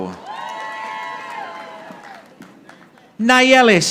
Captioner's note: audience applauding